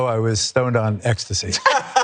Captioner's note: laugh